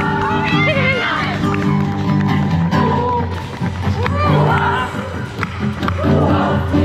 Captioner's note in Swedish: Applåder